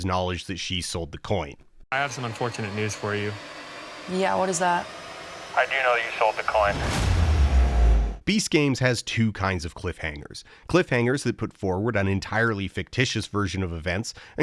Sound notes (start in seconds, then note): 6.8 dramatic crash sound